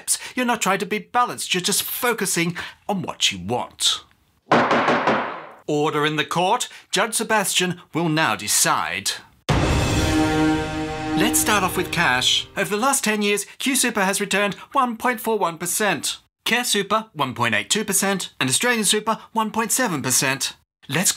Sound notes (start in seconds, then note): 4.5 gunshots; 9.5 dramatic music